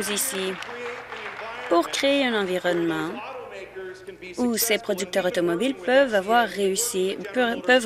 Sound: applause

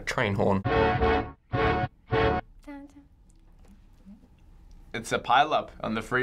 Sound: brassy beat; humming softly

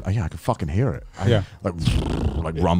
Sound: imitating rumbling

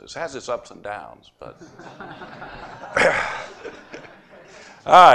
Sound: laughter

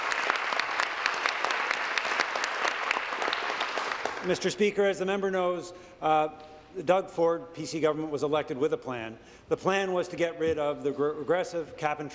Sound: applause

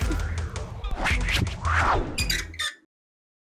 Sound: sign swinging

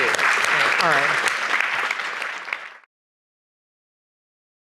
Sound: applause

